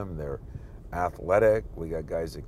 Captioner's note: none